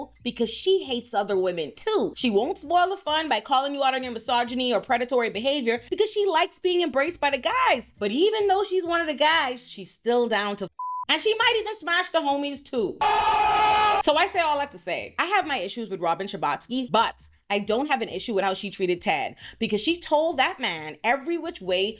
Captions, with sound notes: because she hates other women too. She won't spoil the fun by calling you out on your misogyny or predatory behavior because she likes being embraced by the guys. But even though she's one of the guys, she's still down to (beep) and she might even smash the homies too. (screaming) So I say all that to say, I have my issues with Robin Chabotsky, but I don't have an issue with how she treated Ted because she told that man every which way